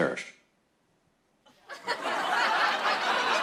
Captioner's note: no audio; laughter